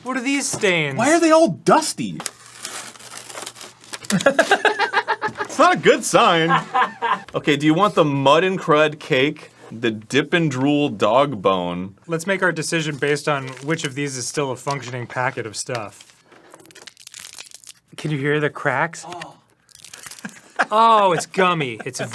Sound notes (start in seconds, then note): 15.8 crunchy compacted sugar crunching; 19.0 off-camera sound of disgust